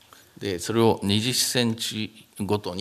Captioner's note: speaking japanese